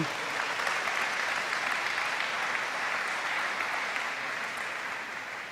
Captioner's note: audience claps